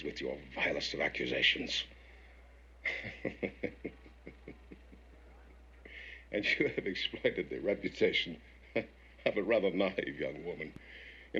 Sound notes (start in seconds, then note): 2.8 chuckles